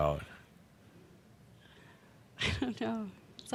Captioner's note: chuckles